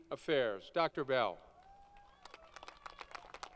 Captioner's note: applause